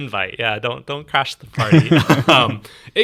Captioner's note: laughs